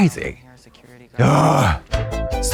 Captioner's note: Katya groans; synth bop